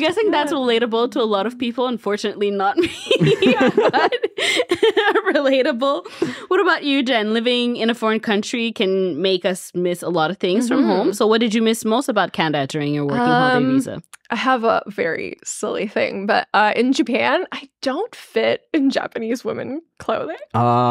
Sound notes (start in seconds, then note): 2.8 all laughing